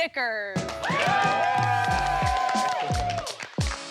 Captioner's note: cheering